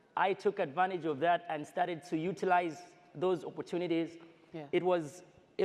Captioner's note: none